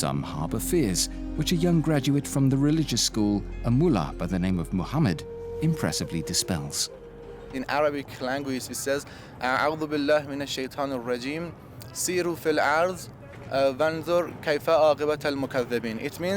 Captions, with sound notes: Some harbor fears, which a young graduate from the religious school, a mullah by the name of Muhammad, impressively dispels. In Arabic language, it says... [speaking Arabic]